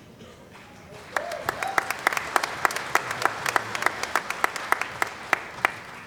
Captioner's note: applause